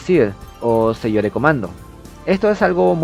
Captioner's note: in spanish